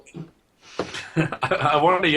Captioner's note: laughs